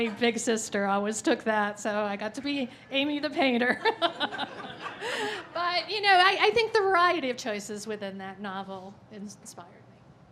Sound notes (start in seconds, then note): 0.0 laughing; 3.8 laughing